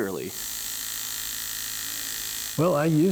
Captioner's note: machine whirring